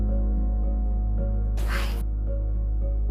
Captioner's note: whispering